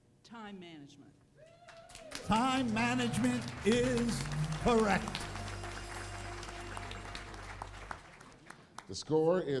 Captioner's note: applause